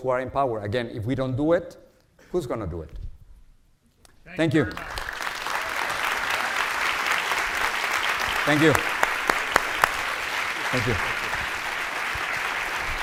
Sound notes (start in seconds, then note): 7.2 audience applauds